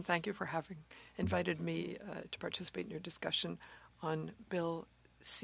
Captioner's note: speaking French